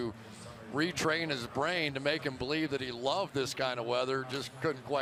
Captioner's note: pa announcement